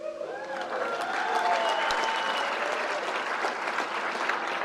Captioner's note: crowd cheers and applauds